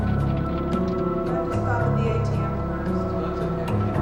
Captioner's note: indistinct chatter